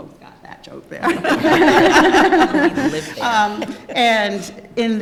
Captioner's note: laughter